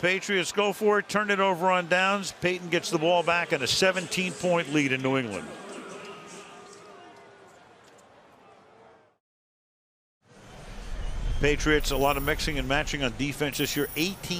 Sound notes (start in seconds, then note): 6.1 pa announcement